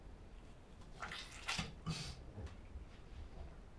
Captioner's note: water splash